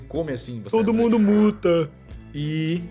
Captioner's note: mockingly